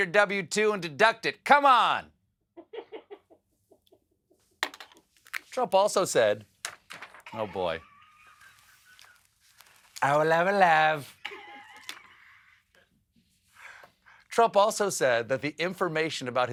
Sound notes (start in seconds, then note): 7.3 laughter